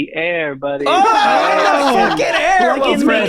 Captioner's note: everyone cheers